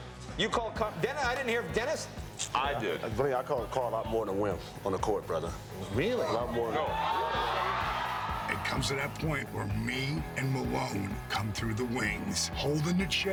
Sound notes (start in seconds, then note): 7.1 applause